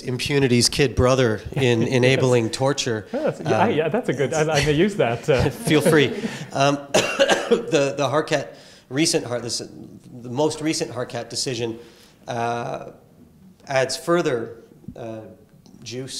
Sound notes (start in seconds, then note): 2.8 laugh; 6.9 cough